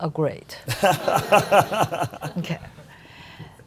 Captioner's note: audience laughing